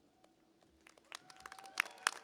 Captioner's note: applause